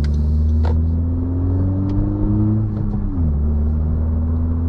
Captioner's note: vroom vroom